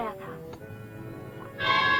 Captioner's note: tap